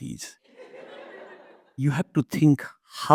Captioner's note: audience laughs